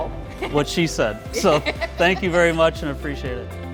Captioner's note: laughing